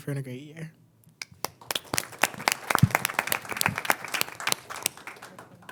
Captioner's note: crowd applauding